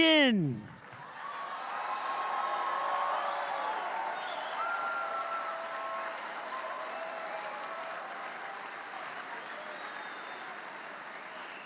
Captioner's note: applause